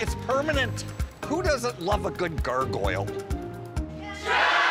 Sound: crowd cheering in unison

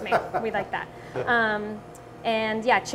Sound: laughing

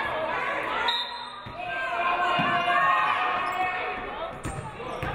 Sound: referee blows whistle

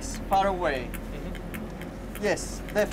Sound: clicking on headset

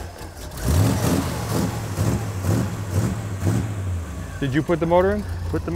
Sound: continuous engine revving

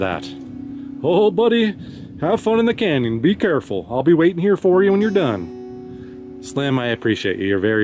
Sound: depper voice

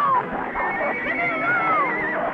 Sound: Champion neighs

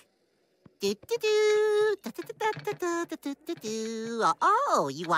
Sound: humming

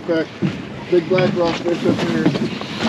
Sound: stumbling

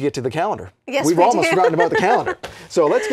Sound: laughs

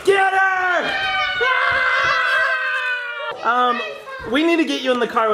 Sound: family screaming

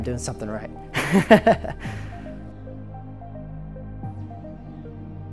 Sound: laughing; soft music

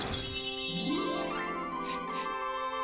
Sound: rattling; uplifting music

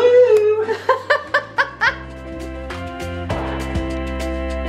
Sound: laughs loudly

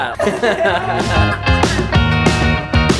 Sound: laughter

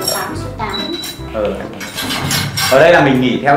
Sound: chatting; chatting

